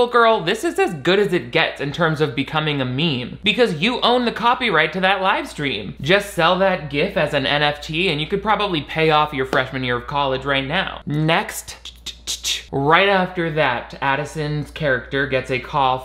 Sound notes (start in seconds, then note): none